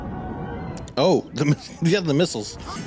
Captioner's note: laughs